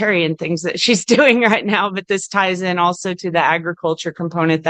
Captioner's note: laughs